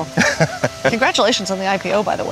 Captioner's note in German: Leiter lacht